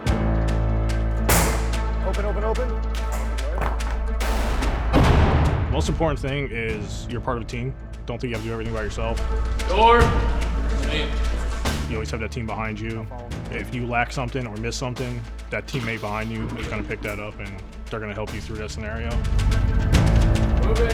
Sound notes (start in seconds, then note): 0.2 intense music; 1.2 door bangs; 4.4 tear gas exploding; 10.8 intense music